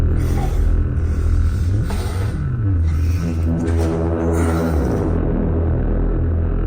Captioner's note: Commander Gray panting; eerie atmospheric music